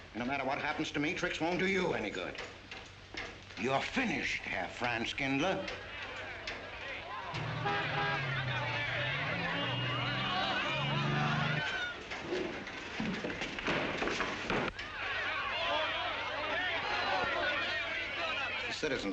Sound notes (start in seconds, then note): 7.3 car honking; 7.5 townsfolk clamoring; 14.8 townsfolk shouting